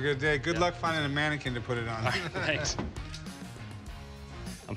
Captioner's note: laughs